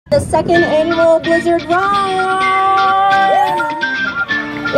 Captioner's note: cheering